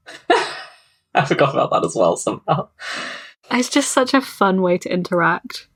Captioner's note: laughs